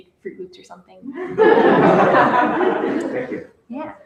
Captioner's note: laughter